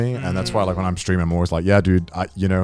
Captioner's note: group humming in agreement